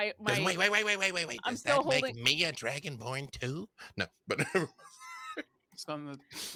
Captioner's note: laughs